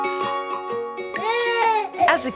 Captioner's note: baby crying